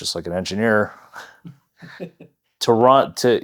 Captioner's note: laughing